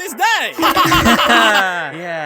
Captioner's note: laughsawkwardly.mp3